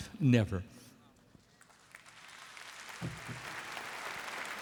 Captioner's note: applause